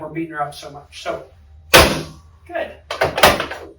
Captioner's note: table thuds